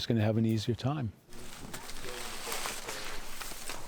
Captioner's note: crunching footsteps